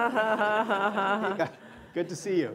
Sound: laughter

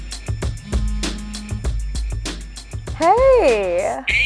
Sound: phone rings

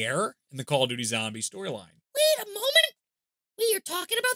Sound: inser high pitch voice

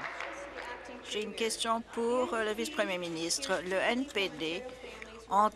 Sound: applause

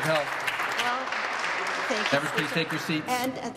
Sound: some Applause

